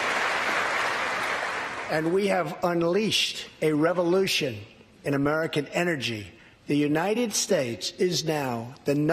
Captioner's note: applause